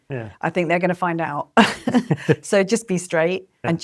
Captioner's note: laughs